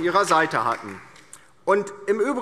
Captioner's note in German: Beifall DIE LINKE